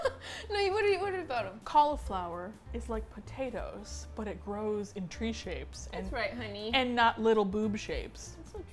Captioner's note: laughs